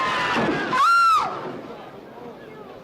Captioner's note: screaming; thud